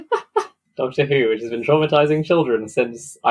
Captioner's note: laughs